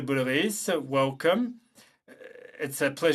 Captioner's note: speaking French